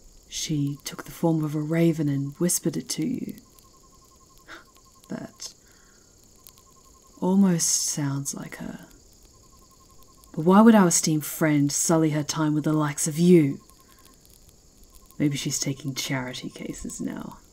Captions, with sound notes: She took the form of a raven and whispered it to you? (scoffing) That- almost sounds like her. Why would our esteemed friend sully her time with the likes of you? Maybe she's taking charity cases now.